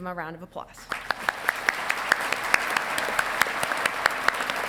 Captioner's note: audience clapping